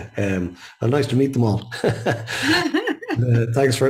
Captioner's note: laughs